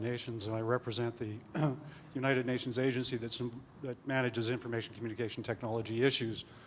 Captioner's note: clears throat